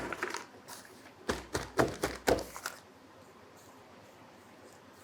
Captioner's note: spatula scraping continues; pot thudding